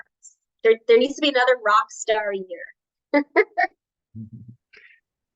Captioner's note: laughs